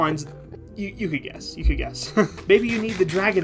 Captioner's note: laughing